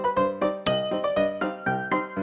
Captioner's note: bell ping; whimsical piano music continues